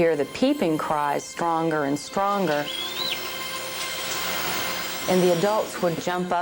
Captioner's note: eaglet peeping